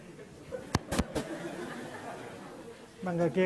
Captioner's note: audience laughs